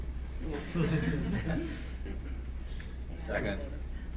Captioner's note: several people laugh